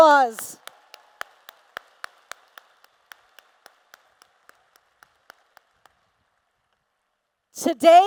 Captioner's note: applause